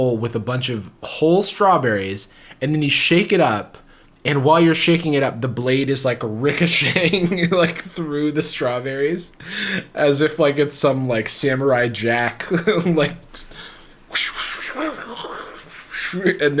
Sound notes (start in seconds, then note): 9.3 laughs